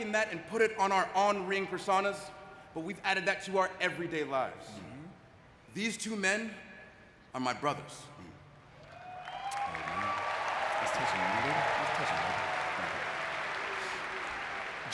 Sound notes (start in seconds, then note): 8.8 audience cheering and clapping